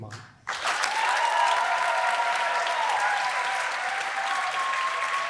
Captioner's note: applause